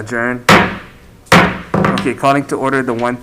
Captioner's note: mallet thudding